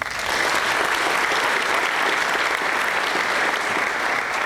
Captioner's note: applause